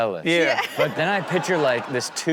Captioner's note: crowd laughs